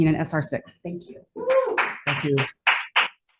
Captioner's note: constituent clapping